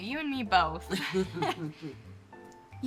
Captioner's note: both chuckling